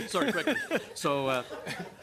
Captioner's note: laughter